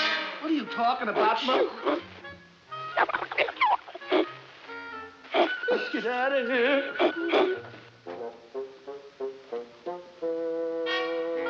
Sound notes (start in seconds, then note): 2.8 chattering